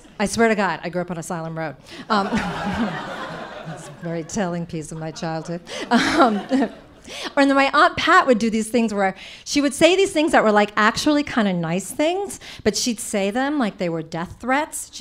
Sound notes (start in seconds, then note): 2.0 audience laughing